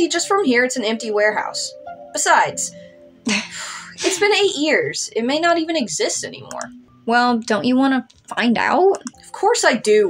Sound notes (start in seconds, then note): 3.7 sigh; 4.0 chuckle